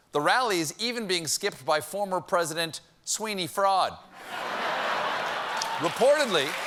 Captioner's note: cheers and applause; laughter